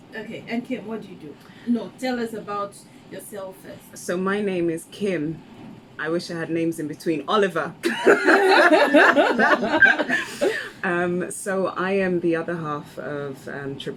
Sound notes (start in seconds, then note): 7.8 laughs